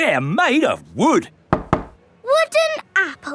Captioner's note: knocks